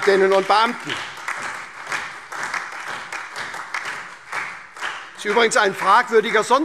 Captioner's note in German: Beifall SPD, AfD, Freie Demokraten und DIE LINKE